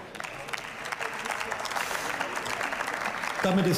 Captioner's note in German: Beifall